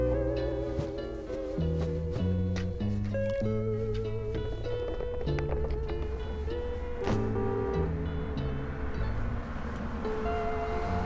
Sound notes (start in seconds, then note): 3.9 jiggling; 6.8 horn honks